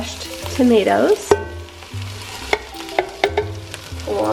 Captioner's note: can clunking